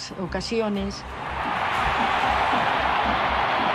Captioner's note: crowd cheers